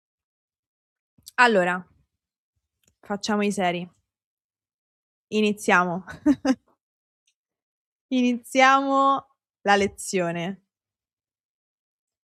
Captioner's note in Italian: risate